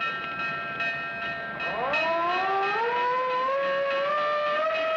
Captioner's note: siren